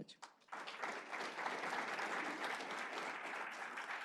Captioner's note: applause